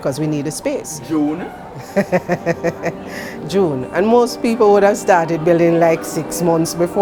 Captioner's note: laughs